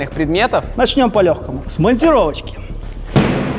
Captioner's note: crowbar